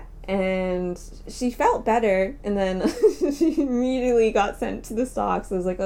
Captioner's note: laughing